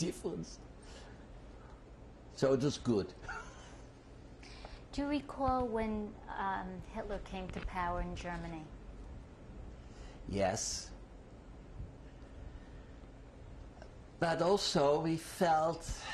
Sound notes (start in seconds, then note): 0.2 laughs; 15.9 sighs